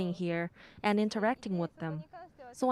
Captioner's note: speaking Foreign Language